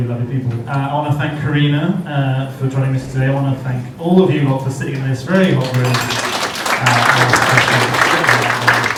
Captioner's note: round of applause